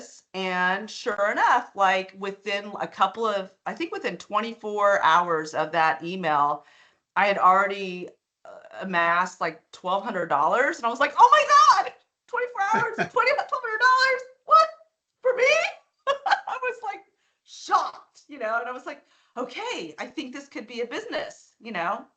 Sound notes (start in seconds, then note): 12.7 chuckling; 16.1 laughing